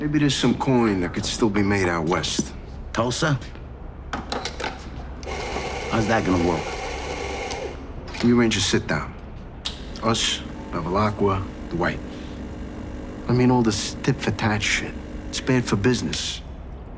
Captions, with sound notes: - Maybe there's some coin that could still be made out West. - Tulsa? (cup clicking) How's that gonna work? (machine whirring) - Let me arrange a sit-down. Us, Bevilaqua, Dwight. (machine buzzing) I mean, all this tit-for-tat shit, it's bad for business.